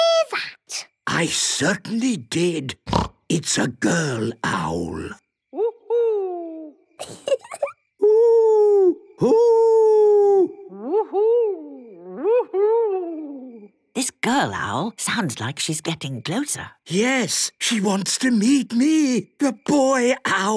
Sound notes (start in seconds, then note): 2.8 snorting; 7.0 Peppa giggling